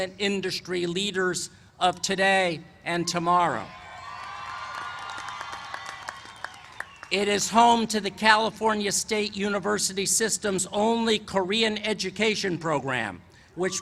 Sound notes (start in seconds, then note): 3.8 cheers and applause